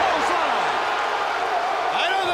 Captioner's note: crowd cheering